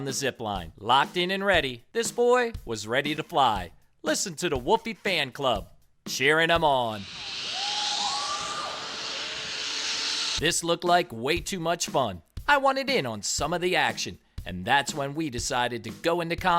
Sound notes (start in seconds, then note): 7.0 crowd cheering